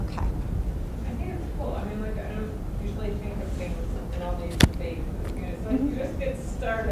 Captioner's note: voiceover